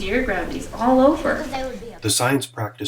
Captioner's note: chatter